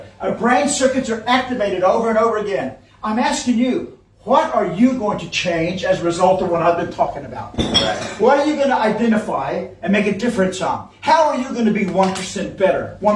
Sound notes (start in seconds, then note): 7.5 glass clinking